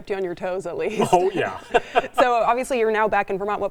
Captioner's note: laughs